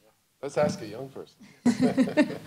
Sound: chuckles

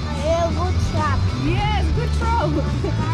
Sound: speaking Dutch

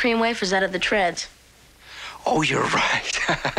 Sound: laughs

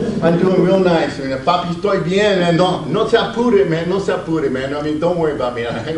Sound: audience laughs; speaks Spanish

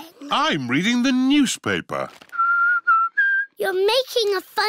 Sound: whistles

